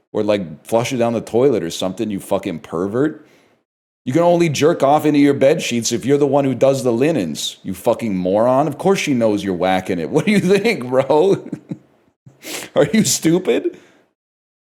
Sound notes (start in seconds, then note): 11.2 laughs; 13.7 breathes out